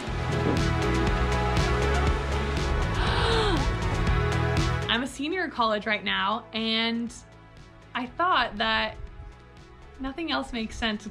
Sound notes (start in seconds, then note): 0.2 uplifting music; 3.0 gasps